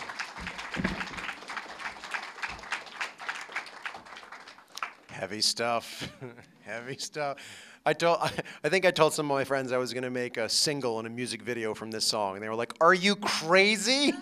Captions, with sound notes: [ APPLAUSE ] >> HEAVY STUFF [LAUGHTER]. HEAVY STUFF. I DON'T -- I THINK I TOLD SOME OF MY FRIENDS I WAS GOING TO MAKE A SINGLE AND A MUSIC VIDEO FROM THIS SONG. AND THEY WERE LIKE, "ARE YOU CRAZY?